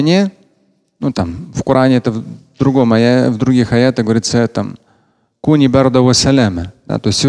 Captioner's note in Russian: говорит на арабском